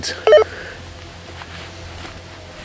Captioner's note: walkie talkie bleeps; leaves crunching